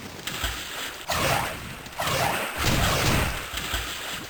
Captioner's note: swooshing, blows landing